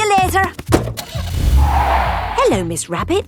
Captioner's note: car starting; tires screeching